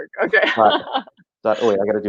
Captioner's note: laughing